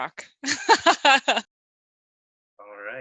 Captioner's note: laughing